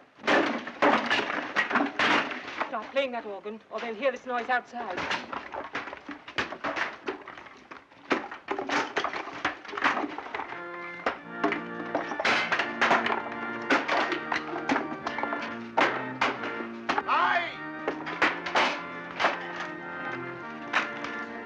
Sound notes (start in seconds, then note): 0.0 chairs breaking forcefully; 5.5 chairs breaking; 10.4 organ playing and chairs breaking